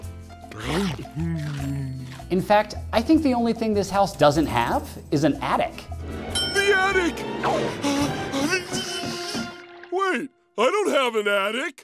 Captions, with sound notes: In fact, I think the only thing this house doesn't have is an attic. The attic! [gasping] Wait, I don't have an attic.